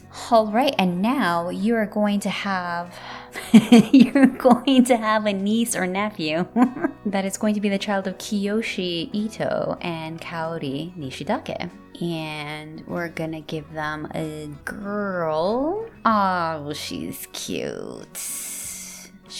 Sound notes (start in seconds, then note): 3.5 laugh